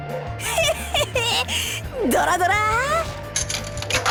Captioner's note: chuckle